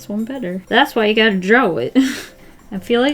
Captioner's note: short laugh